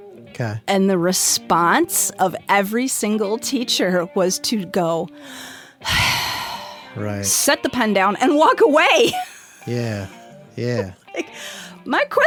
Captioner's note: sigh